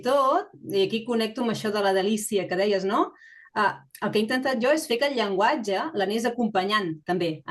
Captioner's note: continues speaking in Catalan